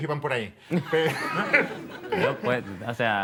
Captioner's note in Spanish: Risas